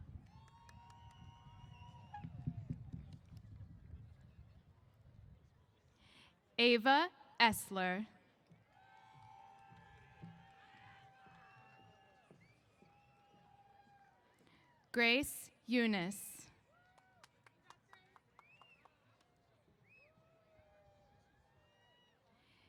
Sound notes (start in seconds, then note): 0.2 cheers; 8.6 cheers; 17.3 cheers